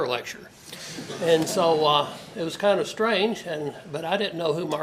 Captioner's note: laugh